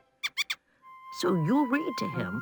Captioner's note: mouse squeaking